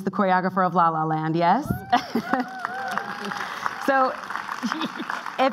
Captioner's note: clapping